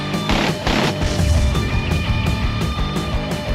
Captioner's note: upbeat music; explosion booming; upbeat music